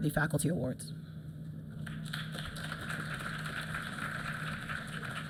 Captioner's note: applause